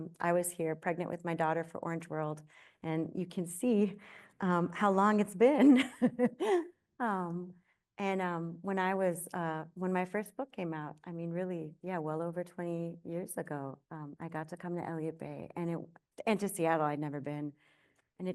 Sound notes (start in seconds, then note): 5.8 chuckles